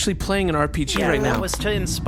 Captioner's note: Beano makes a disappointed noise